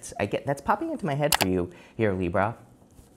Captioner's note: button clicks